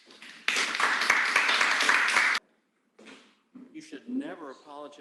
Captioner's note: applause